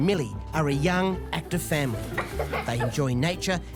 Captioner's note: laughing